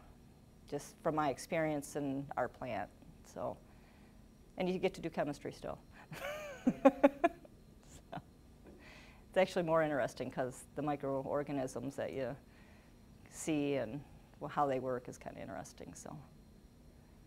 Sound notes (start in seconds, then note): 6.6 laughing